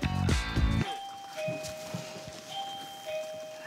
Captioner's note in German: Klingel, Musik endet